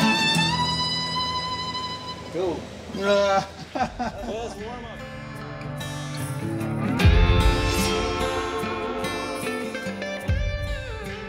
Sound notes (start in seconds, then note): 2.9 laughs; 5.9 mellow music